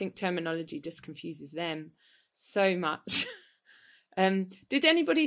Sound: laughs

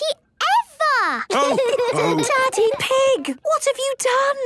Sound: laughter and snorting; laughter

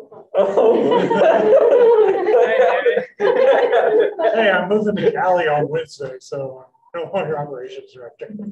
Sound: outbursts of laughter

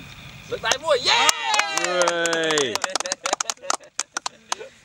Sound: round applause

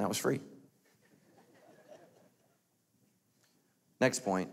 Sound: light laughing

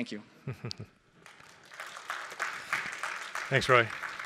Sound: applause

